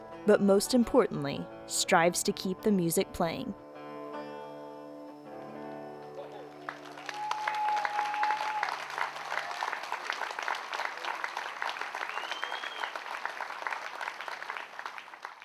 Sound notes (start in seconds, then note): 5.3 music / applause